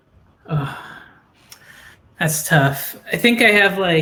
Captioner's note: sighs